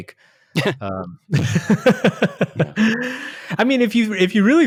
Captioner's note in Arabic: يضحك